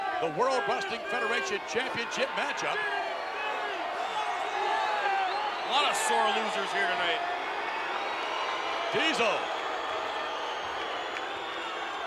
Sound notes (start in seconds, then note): 3.7 crowd clamors